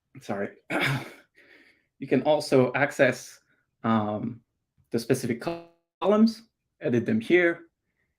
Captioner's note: clears throat